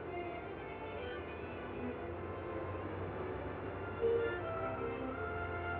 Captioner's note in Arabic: موسيقى مبهجة; محركات تهدر